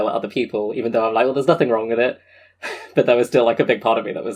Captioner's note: laughs